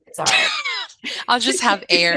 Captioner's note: laughter